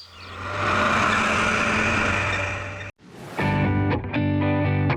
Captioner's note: tractor engine